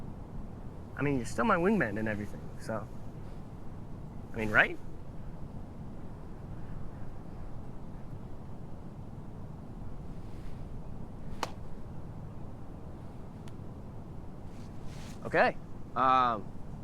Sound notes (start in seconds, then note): none